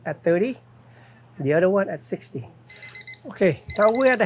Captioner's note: timer beeping